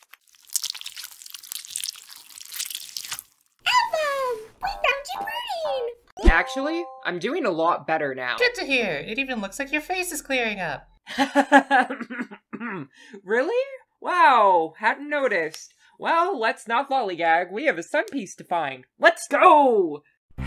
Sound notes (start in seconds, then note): 11.1 Album laughing; 12.0 Album clearing her throat